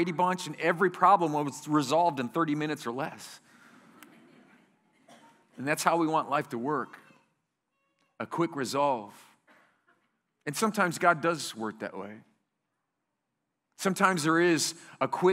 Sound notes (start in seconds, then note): 4.0 laughter